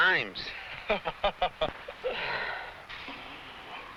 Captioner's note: man laughs